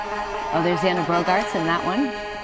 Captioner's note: cheering